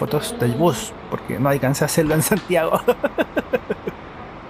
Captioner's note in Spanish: risas